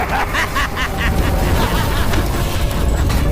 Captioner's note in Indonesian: tertawa